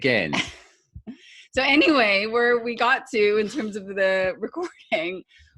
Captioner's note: laughs